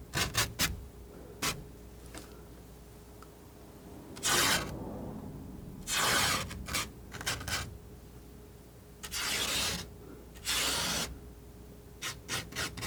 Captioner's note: scratching